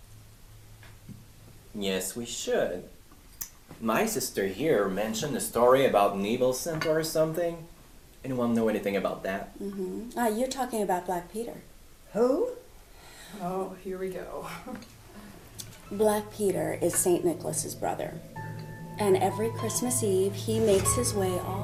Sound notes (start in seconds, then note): 14.4 chuckles